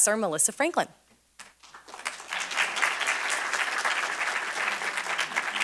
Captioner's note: applause